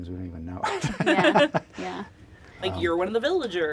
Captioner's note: laughs